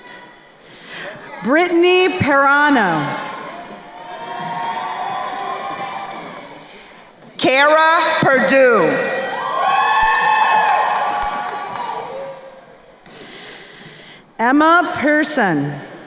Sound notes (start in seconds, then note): 3.9 crowd cheering; 9.0 crowd cheering and applauding